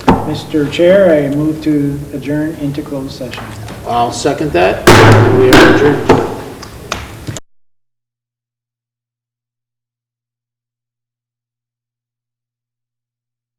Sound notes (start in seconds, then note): 4.8 bangs gavel loudly